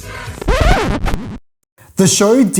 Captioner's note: record scratch